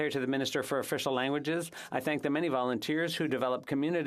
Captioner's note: speaking alternate language